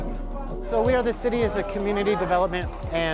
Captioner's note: cheering and yelling